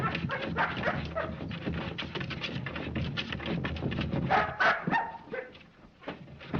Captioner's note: dog barks loudly